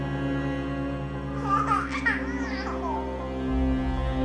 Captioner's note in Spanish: risita de bebé